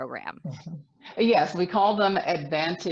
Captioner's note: laughs